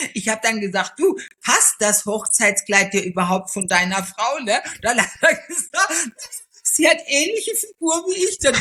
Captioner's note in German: gelächter